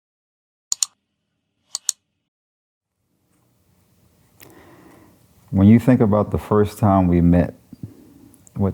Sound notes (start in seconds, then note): 1.7 clicking